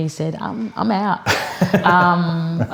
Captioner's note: laughs